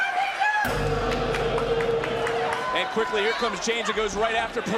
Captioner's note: bell rings